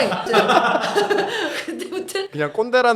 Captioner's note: ha ha ha ha ha ha ha ha